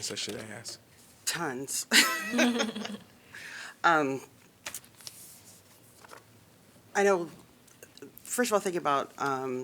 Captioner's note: laughter